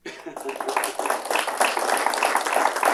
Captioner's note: applause